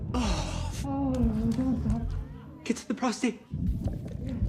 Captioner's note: Termite slapping